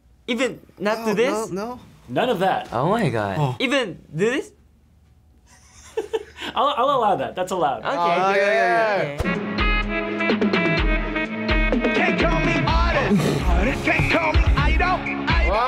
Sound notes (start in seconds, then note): 5.4 FBE giggles; 12.9 laughs